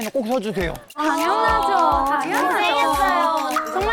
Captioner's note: confident voice